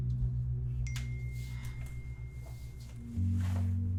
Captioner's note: phone dings